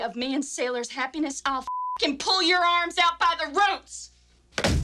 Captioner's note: beep